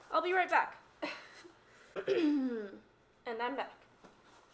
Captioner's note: clears throat